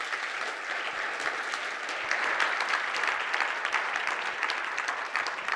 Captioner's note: audience applauding